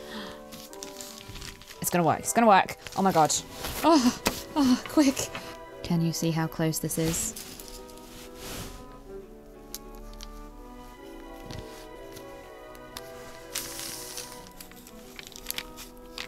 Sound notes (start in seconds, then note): 0.4 rustling; 12.9 rustling; 13.4 pin piercing paper